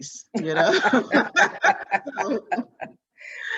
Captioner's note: both laughing